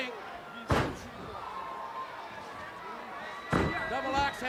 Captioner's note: punches thudding